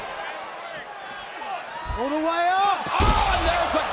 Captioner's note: crowd cheering